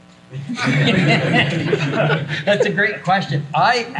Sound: everyone laughs

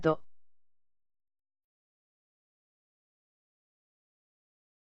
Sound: silence

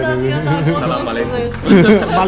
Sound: Arabic

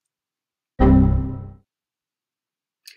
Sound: Windows error

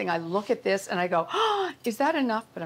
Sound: gasps

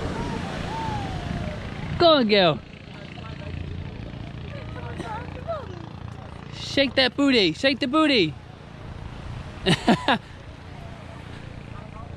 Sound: laughs

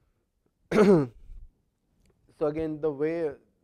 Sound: cough

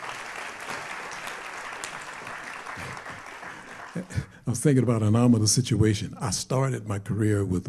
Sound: applause

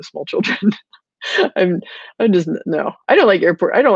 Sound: laughing

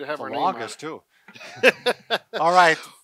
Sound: laughing

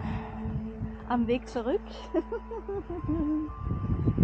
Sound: giggling

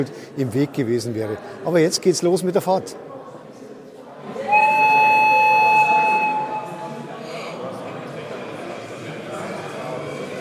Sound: whistle

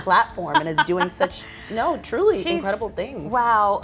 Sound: woman laughs

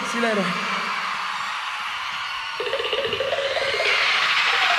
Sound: crowd cheers

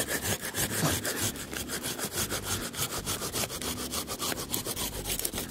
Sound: saw scrapes against wood

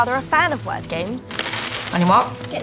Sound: game pieces falling on table

